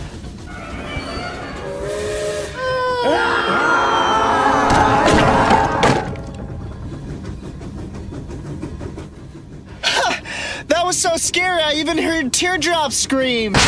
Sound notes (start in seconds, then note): 0.0 train chugging; 0.2 ominous music; 5.0 ominous music continues; 5.2 train chugging